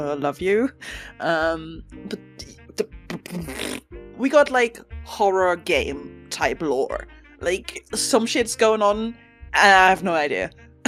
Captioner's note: laughs